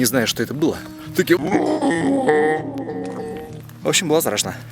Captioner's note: heart-rending scream